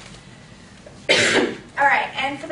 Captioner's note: coughing